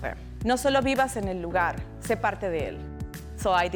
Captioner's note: speaking in Spanish